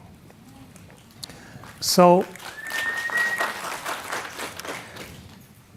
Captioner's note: audience murmuring and clapping